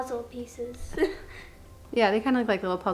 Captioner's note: chuckles